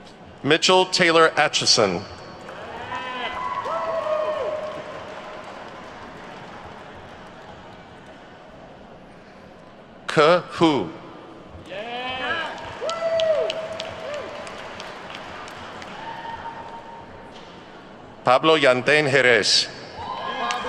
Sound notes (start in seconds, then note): 2.4 audience whoops and claps; 11.6 attendees whoop and clap